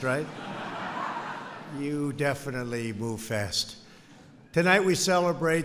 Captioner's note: laughter